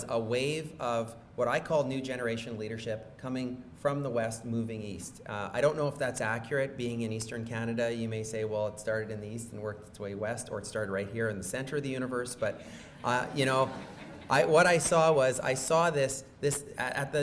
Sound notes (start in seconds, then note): 12.9 laughing